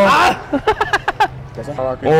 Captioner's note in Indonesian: ketawa